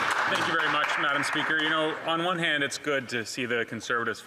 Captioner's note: some Applause